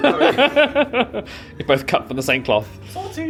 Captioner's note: laughs